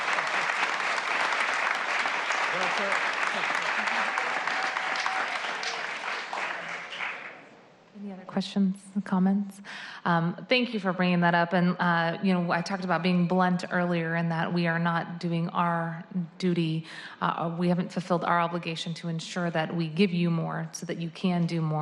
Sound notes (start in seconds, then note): 3.4 applause